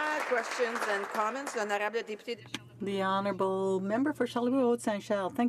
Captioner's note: some applause